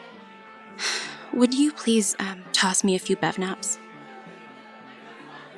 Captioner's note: frustrated exhale